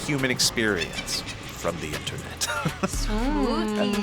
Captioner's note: laughs; evil laughter